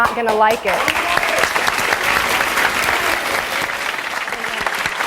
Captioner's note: audience applause